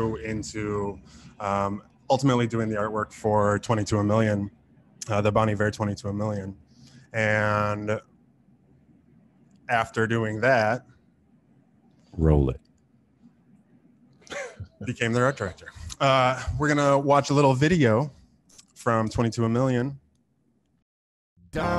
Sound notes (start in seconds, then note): 14.3 laughing